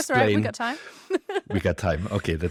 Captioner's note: laughs